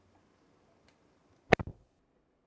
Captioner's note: door Thud